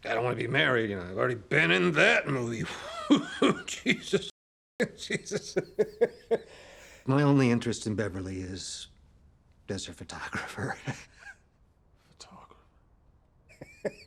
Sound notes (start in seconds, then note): 4.8 man laughing